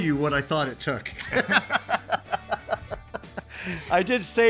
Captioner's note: both laughing